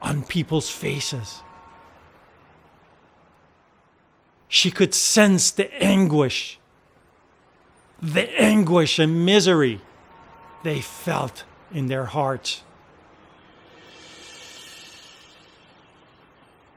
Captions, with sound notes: on people's faces. (horn honking) She could sense the anguish, the anguish and misery (horn honking) they felt in their hearts. (tense cymbals music)